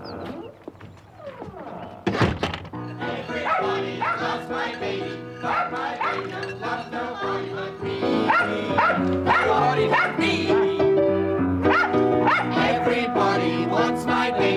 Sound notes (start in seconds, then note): 12.2 barking